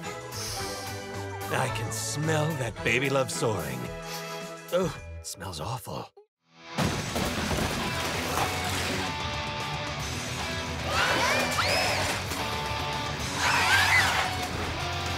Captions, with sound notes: [sniffs] I can smell that Baby Love soaring. -[sniffing] Ugh. Smells awful. [rock music playing] [all screaming]